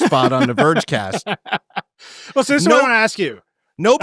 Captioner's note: laughing